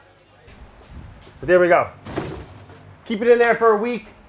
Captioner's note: people chattering; pan heavily thuds